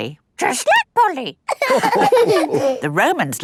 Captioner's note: all laughing